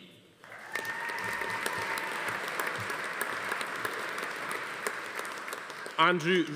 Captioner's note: audience applauding; attendee cheering